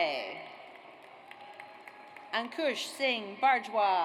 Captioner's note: audience applauds